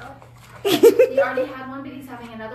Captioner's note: laughing